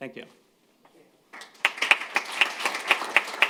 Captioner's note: applause